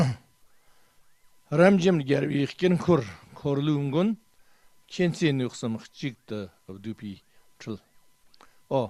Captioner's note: tibetan